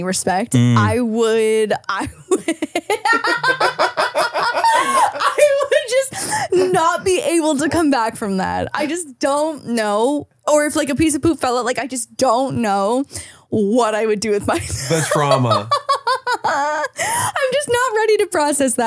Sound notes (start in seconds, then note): 2.2 laughing; 14.8 laughs